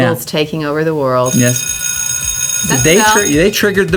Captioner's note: schoolbell rings